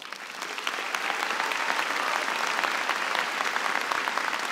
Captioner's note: applause